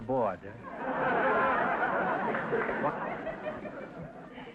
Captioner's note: audience laughter